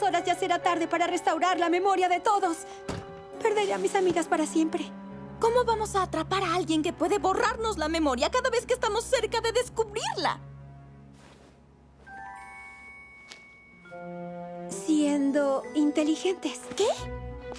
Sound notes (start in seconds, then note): none